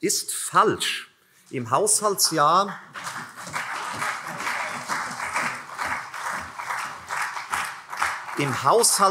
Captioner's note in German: Beifall CDU und vereinzelt SPD